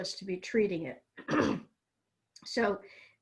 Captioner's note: clears throat